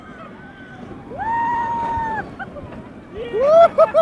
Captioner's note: screaming